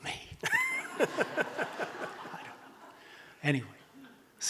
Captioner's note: audience laughing